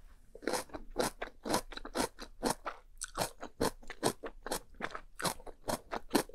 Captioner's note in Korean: 와사작 와작 와자자작